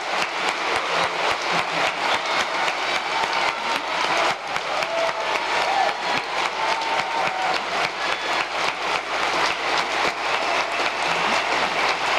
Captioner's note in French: applause